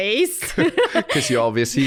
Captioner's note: laughs